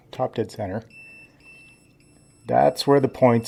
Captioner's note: beeping starts